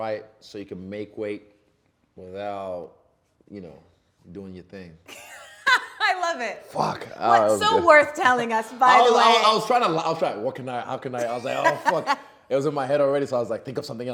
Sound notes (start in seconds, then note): 5.2 laughing